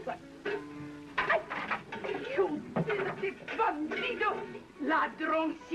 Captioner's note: speaking Spanish